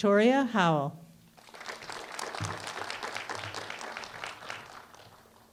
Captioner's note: applause